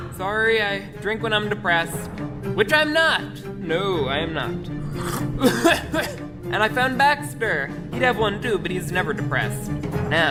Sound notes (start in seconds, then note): 4.9 hacking